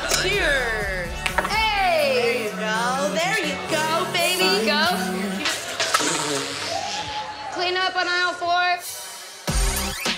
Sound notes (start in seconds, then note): 0.0 laughing; 5.5 blows raspberry